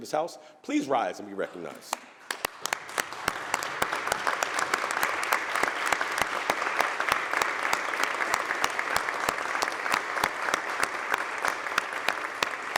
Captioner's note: applause